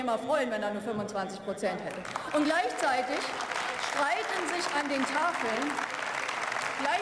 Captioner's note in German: Beifall